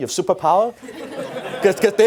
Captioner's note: audience laughs